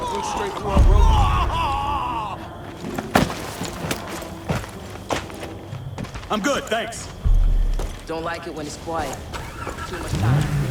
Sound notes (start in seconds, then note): 2.6 yelling